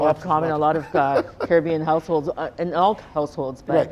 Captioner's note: Donovan laughing